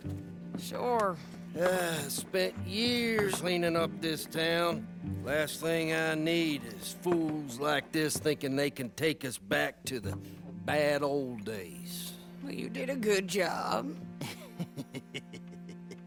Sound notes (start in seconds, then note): 1.6 sighs and serves drinks; 14.2 Ramón laughs in his cell